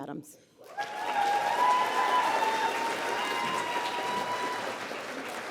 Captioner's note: applause